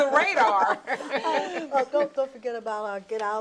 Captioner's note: laughing